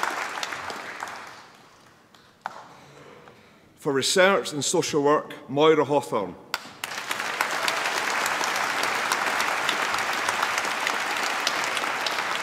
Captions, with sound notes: For Research in Social Work, Moyra Hawthorn. (APPLAUSE)